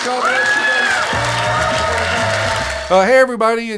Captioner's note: audience cheers